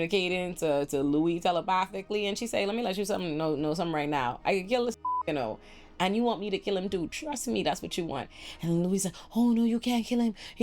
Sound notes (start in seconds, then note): 5.0 beep